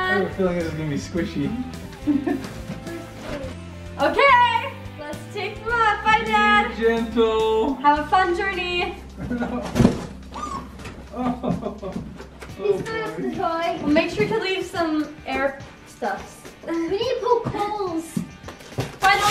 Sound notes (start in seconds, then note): 1.9 chuckles; 9.3 cardboard banging; 10.3 whimpers; 10.3 toy squeaking; 11.0 laughs